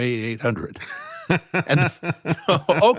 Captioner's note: laughing